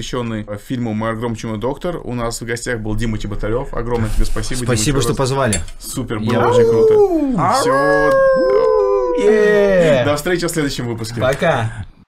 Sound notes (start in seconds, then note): 6.4 howling